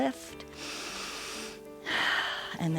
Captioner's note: inhales and exhales